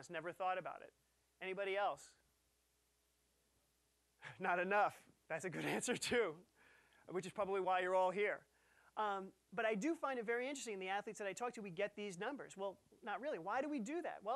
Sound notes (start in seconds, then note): 4.3 chuckling